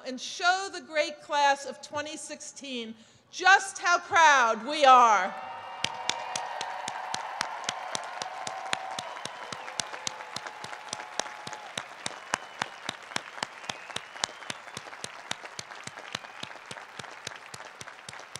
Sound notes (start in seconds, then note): 5.6 applause; 10.7 cheers